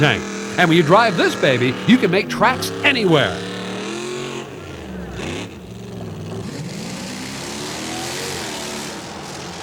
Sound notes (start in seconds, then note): 3.6 engine revs; 6.1 engine roars